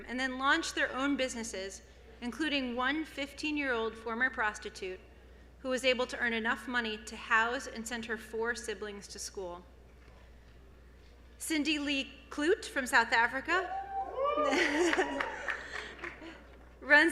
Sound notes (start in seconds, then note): 13.7 cheers and Applause